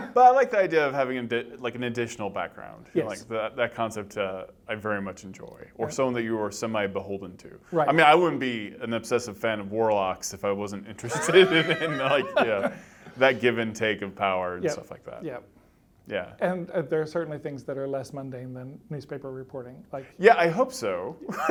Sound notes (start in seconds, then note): 11.0 laughter